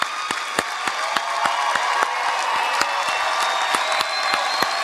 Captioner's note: cheering